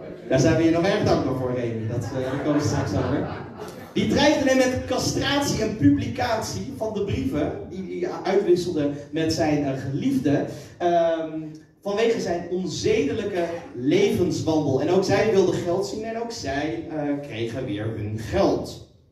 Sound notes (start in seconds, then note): 1.8 laughter